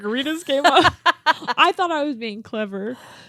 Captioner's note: laughing